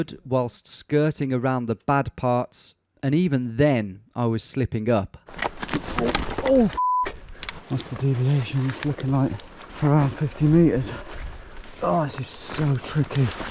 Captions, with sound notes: whilst skirting around the bad parts. And even then, I was slipping up. (branches rustling) Oh, (beeps). What's the deviation? It's looking like around 50 meters. Oh, this is so tricky.